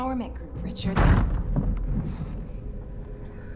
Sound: thudding

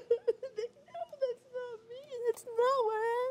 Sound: sobbing

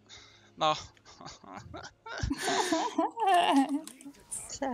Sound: haha

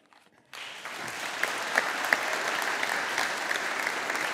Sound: audience applauding

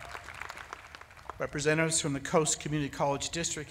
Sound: applause

